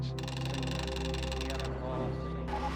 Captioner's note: rapid clacking